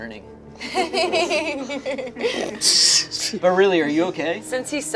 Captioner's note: group laughs